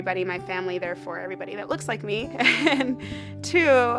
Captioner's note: laughs